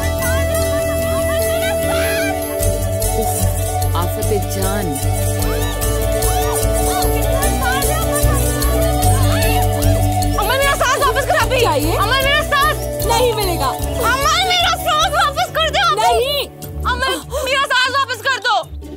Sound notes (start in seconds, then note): 5.6 Girls shouting playfully